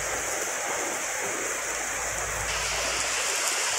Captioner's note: sound of rain